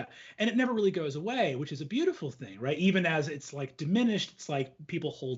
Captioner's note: none